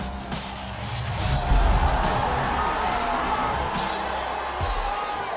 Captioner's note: crowd cheering